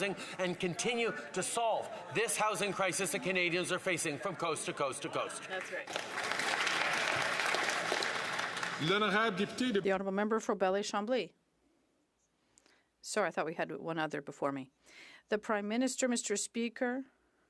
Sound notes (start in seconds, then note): 9.2 some Applause